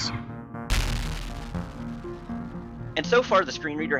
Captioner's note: in-game ship shooting; in-game ship exploding